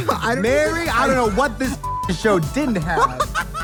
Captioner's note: beep